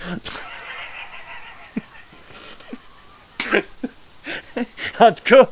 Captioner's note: laugh